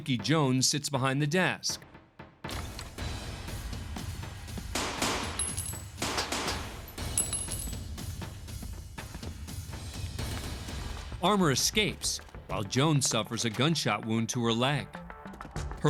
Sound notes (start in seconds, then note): 1.8 tense music; 4.7 gunshots